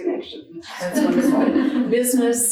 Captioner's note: audience laughing